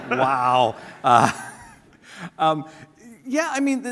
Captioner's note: laughter